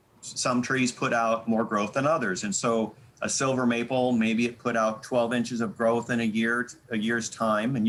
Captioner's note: none